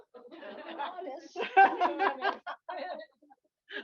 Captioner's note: laughter